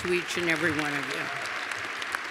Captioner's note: cheers and applause